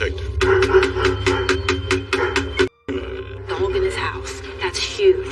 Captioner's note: knonocking, dogog barking